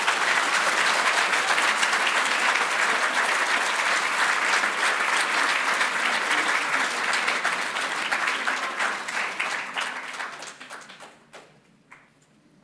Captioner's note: applause